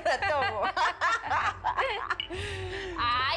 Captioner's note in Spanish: Risas